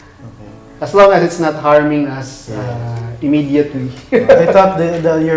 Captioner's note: laughs